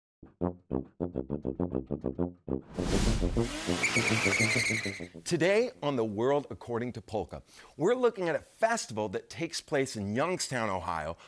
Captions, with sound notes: (upbeat tuba music) (air whooshes) (engine revs) (tires squeal) Today on "The World According to Polka," we're looking at a festival that takes place in Youngstown, Ohio,